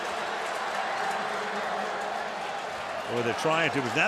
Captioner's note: pa announcement